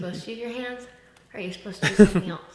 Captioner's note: laughs